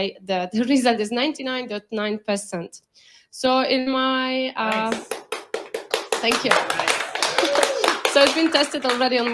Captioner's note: applause from the audience